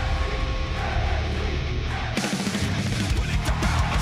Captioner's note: crowd cheering